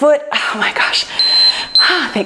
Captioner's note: timer beeps